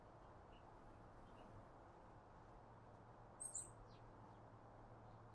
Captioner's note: bird Chirping